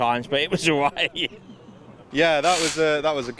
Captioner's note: laughs